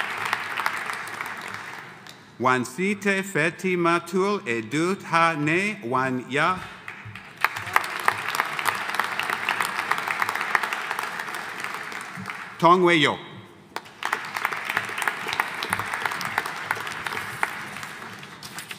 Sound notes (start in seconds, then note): 6.8 audience applauding; 13.7 audience applauding